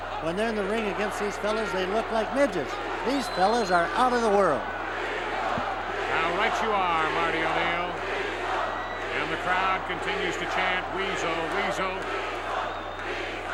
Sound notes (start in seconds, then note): 8.2 crowd chanting